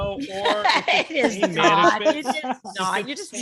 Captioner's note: laughing